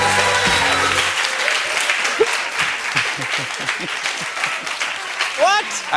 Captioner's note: cheers and applause